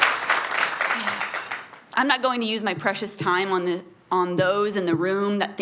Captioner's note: applause